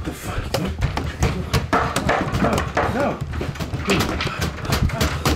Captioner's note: loud erratic banging